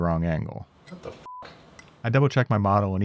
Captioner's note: beep